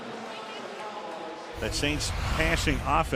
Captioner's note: pa announcement